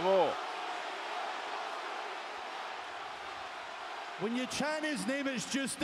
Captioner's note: applause